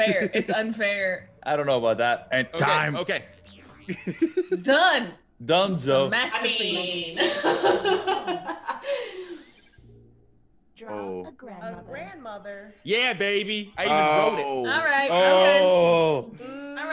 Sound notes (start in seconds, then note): 3.8 laugh; 7.2 laugh